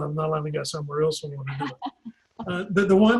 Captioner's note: laughs